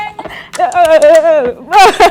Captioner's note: laughs